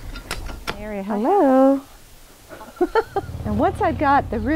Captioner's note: laughs